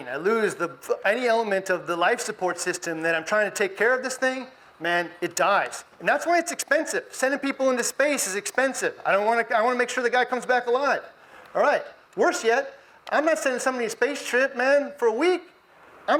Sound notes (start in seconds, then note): none